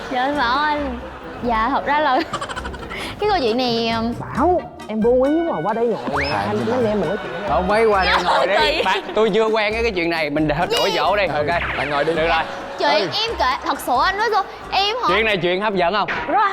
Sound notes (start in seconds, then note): 12.1 laughing